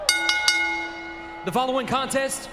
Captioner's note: bell rings